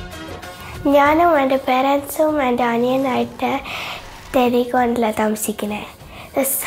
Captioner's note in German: spricht Malayalam